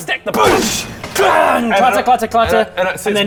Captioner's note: booosh! clangggg!